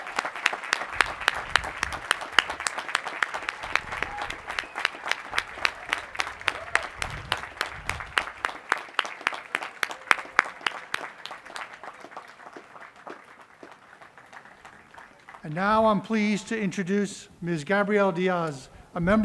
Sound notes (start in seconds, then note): 7.4 cheering and applause